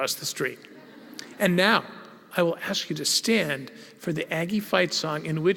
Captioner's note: laugh